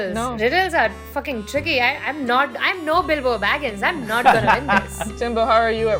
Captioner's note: laughter